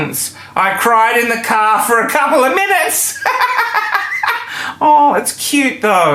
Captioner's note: laughing